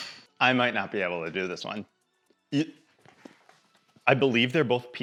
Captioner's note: retches